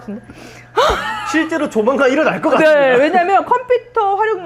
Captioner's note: laughs